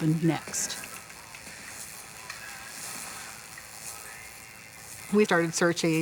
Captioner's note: TV static